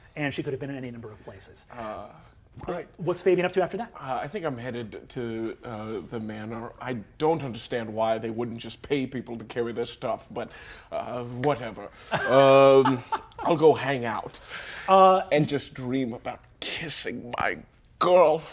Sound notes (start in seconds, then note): 12.0 Brennan laughs